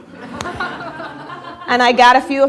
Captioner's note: laughter